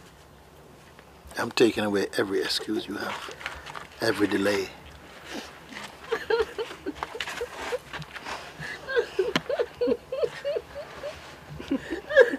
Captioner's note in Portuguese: soluços